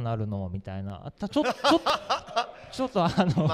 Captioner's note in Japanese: 会場から笑い